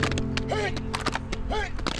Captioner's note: hands thudding